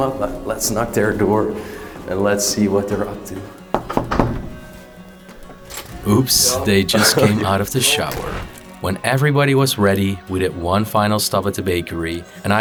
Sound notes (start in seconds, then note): 3.7 knock, knock